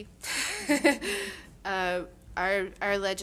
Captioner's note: laughing